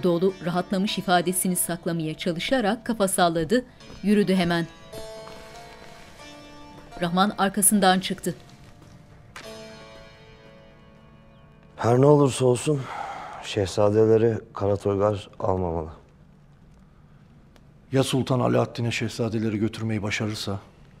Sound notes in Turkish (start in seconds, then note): 3.1 Ayak sesleri